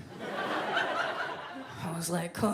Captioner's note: audience laughs